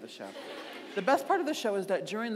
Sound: audience laughing

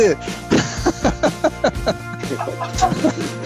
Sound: more hearty laughter

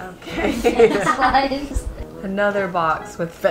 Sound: laughter

